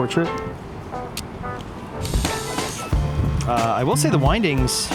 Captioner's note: light jazz music; camera shutter clicking